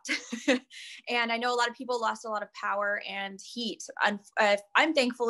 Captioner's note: laugh